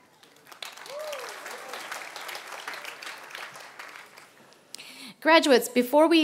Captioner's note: applause